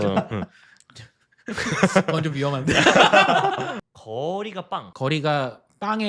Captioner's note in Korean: 웃음